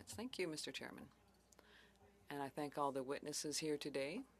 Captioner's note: speaking French